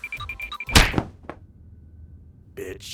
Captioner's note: smack